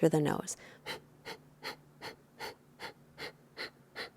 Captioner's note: exhaling loudly